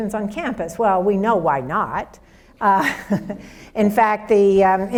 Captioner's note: laughs